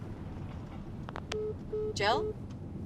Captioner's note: phone beeps